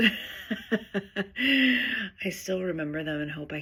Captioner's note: laughing